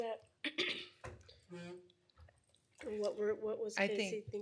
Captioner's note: clears throat